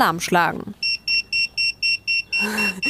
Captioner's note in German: Schnelles Piepen